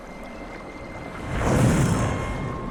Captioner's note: metallic wooshing